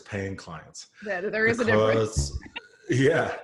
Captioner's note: laughs